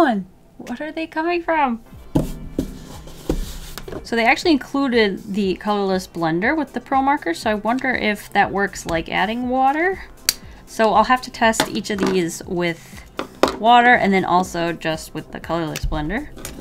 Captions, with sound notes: What are they coming from? So they actually included the colorless blender with the pro marker, so I wonder if that works like adding water. *click* So I'll have to test each of these with water and then also just with the colorless blender.